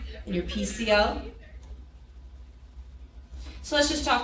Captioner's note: people chattering